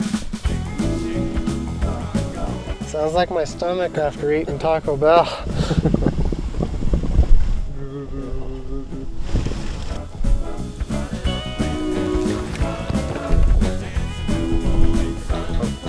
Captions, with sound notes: (guitar interlude) - Sounds like my stomach after eating Taco Bell. (laughs) (guitar interlude)